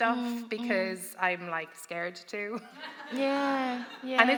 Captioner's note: laughter